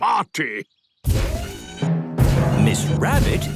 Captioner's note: thudding, mechanical whirring